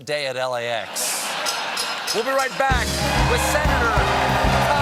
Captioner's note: laughter